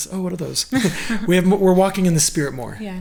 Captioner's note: laughing